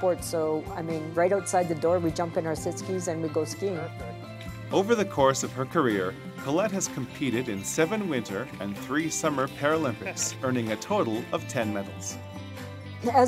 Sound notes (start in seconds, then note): 4.9 voiceover